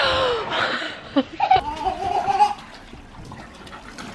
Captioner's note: giggles